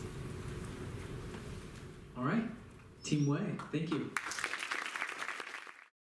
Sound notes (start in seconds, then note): 3.9 applause